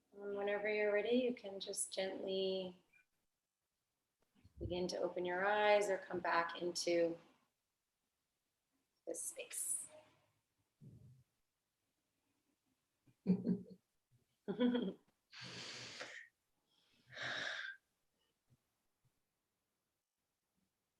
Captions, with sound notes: Whenever you're ready, you can just gently begin to open your eyes or come back into this space. (exhaling)